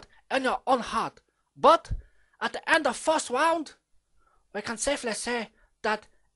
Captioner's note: none